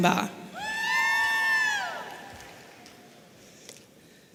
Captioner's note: audience cheering